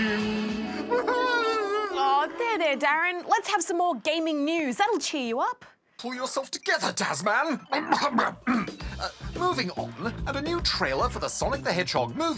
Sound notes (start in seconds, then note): 0.4 sobs; 7.7 clears throat